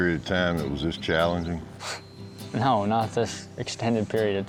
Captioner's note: laughs